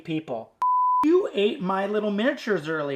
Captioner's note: beep